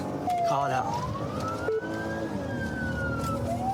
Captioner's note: siren blares